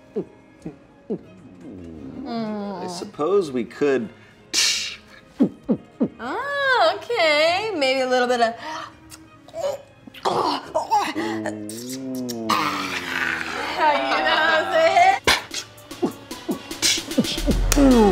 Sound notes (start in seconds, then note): 1.1 imitates gulping noise; 4.6 imitates opening can and gulping noises; 8.8 grunting, gulping, and sucking noises; 15.4 imitation of opening cans and gulping